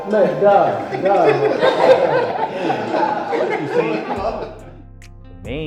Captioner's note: group laughing